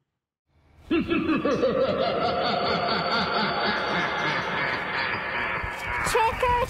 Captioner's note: jack-o-lantern laughing sinisterly